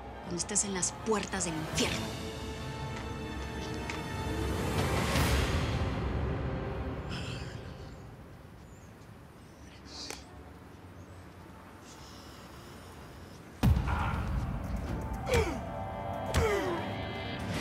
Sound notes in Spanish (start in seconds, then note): 13.7 Golpes